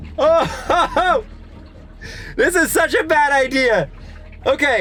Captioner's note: water bed burbles